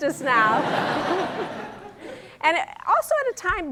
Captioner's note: laughter